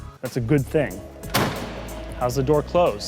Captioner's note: door slams